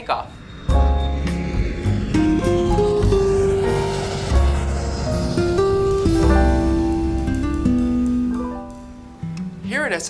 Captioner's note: jet engine